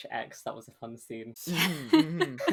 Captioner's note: laughs